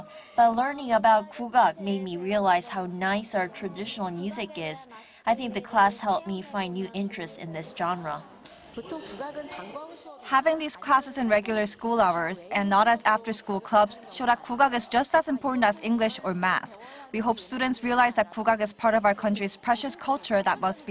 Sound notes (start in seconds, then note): 9.0 Korean